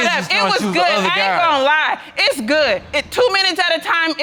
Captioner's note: audience laughing